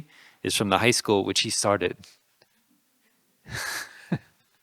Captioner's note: laughing